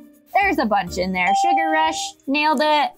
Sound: bell rings

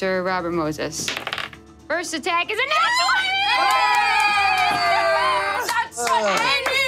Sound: players cheering

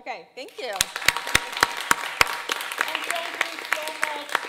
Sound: audience applauding

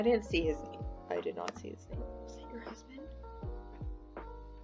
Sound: whispers

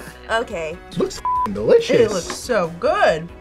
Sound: beep

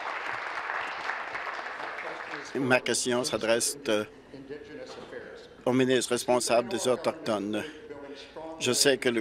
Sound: applause

